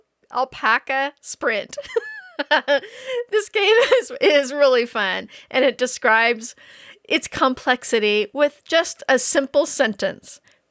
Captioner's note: laughing